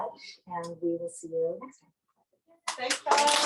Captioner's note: applause